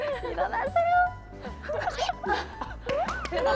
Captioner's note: sob